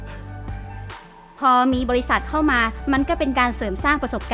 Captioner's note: inspiring music; woman speaking Thai